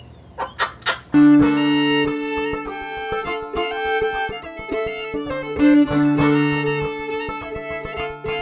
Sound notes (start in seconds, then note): 0.3 laughter; 1.1 fiddle and banjo music